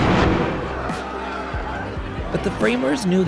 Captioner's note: men shouting